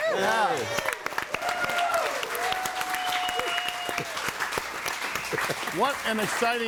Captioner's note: audience cheering and applauding